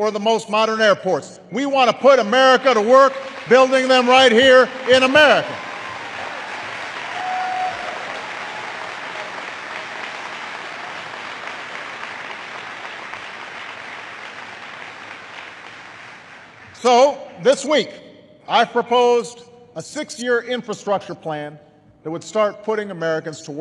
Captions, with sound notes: the most modern airports -- we want to put people to work building them right here in America. (Applause.) So this week, I've proposed a six-year infrastructure plan that would start putting Americans to